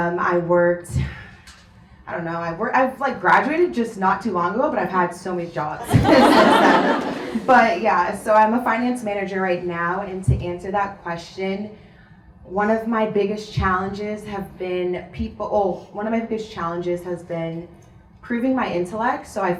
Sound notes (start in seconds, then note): 5.8 audience laughs